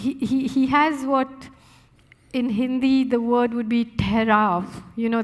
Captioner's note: speaking Hindi